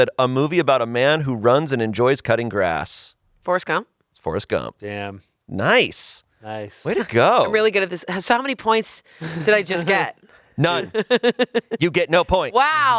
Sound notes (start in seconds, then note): 10.7 laughs